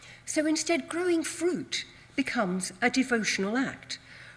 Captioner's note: none